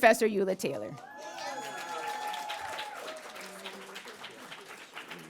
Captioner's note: audience cheering